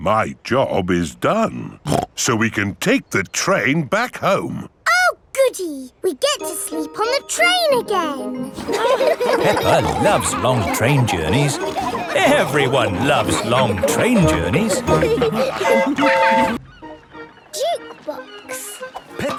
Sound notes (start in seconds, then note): 8.8 laughing; 15.7 train whistle toots